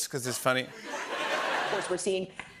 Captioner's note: laughter